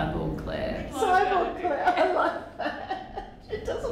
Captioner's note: laughs